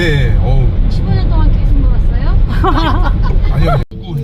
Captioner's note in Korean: 웃음